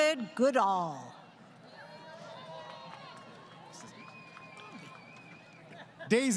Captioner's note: crowd Cheering